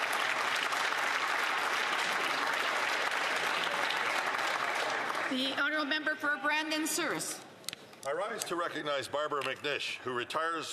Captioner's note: some Applause